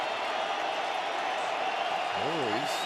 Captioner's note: cheering